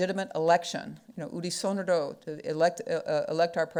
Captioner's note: speaking foreign language